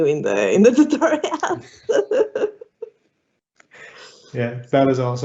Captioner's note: laughing